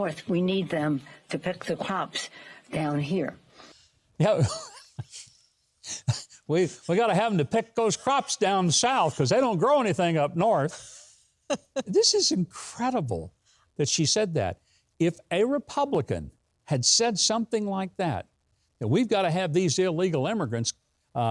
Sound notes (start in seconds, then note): 5.8 laughs